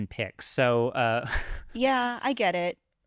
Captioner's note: laughs